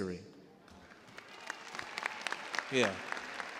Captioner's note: cheers and applause